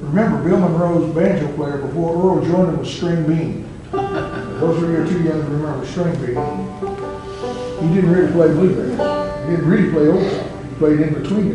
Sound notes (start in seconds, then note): 4.0 laughter